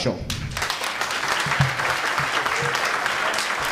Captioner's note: applause